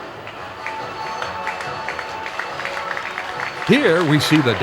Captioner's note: crowd applauds